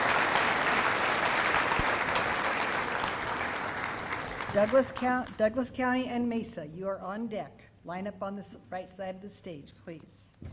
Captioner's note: applause